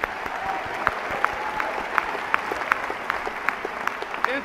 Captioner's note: applause